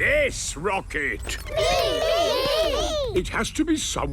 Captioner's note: calling out in turn